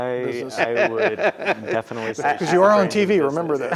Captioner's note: laughs